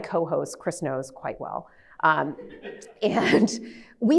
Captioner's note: laughs